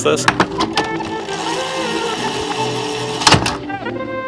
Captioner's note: reel whirring; gentle music